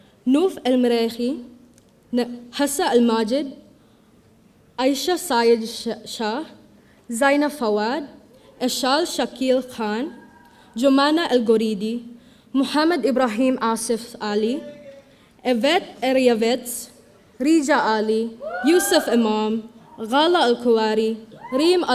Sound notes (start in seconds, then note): 18.4 audience cheering